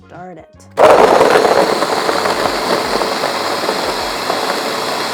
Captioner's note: blender whirs